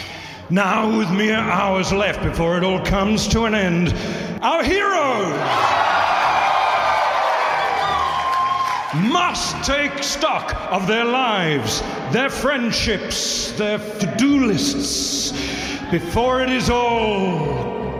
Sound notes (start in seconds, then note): 5.1 audience cheering